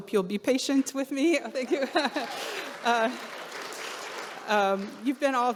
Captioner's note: audience clapping